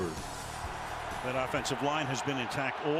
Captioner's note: cheering